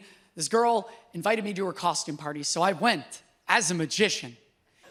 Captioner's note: none